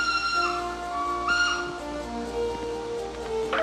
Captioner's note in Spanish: silbato